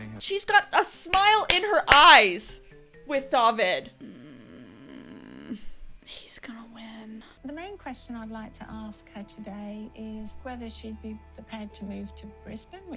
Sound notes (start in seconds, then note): 4.0 groaning